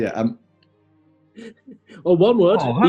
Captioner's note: giggling